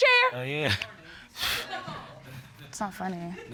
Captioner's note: laughs nervously